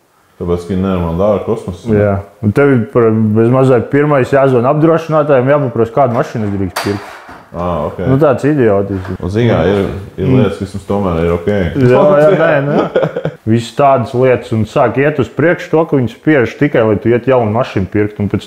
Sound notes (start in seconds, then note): 11.7 laughs